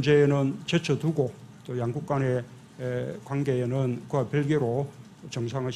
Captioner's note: Korean